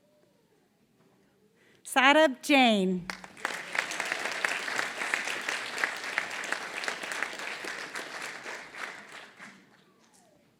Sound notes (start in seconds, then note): 0.0 applause